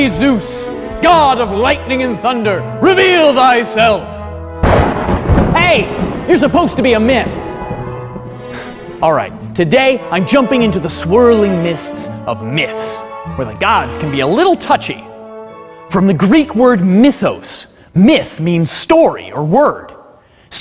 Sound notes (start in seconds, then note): 4.6 clap of thunder